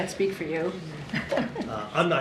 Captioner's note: laughs